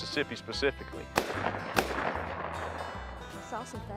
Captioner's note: gun shots